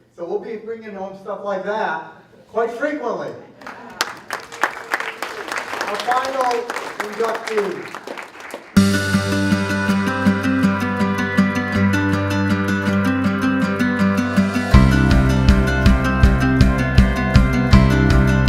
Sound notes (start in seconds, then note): 3.6 applause; 7.7 upbeat music